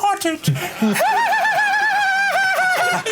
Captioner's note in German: lacht schrill